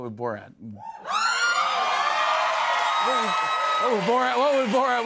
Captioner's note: cheers and applause